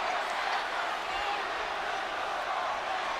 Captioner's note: applause